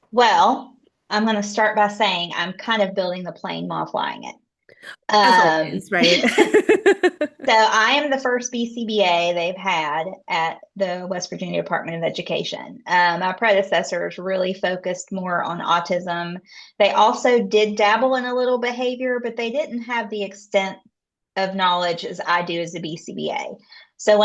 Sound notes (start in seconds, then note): 5.1 laughs